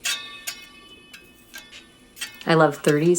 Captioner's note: sound of reel flange